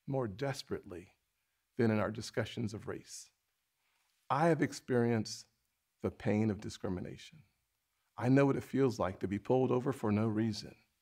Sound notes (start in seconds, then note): none